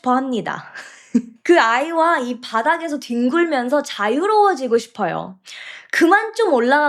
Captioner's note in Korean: 웃음